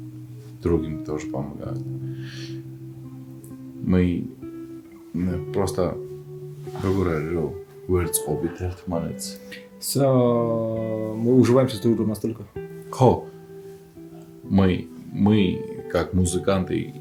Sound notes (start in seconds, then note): 6.8 speaks Georgian